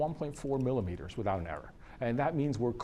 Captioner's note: none